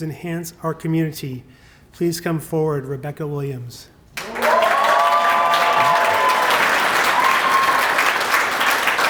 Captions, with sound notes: enhance our community. Please come forward, Rebecca Williams. [APPLAUSE]